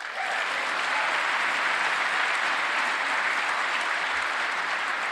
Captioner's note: applause